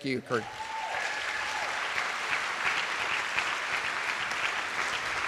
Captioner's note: attendees applauding